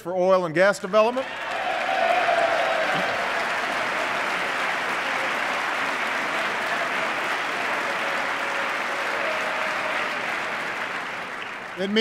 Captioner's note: applause